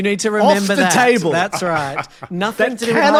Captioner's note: laughs